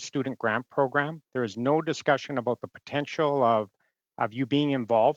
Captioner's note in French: voix de l'interprète